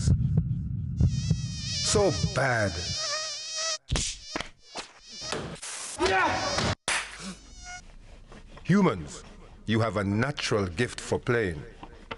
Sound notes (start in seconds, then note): 3.9 whack sounds; 5.4 spray sound; 6.9 clap sounds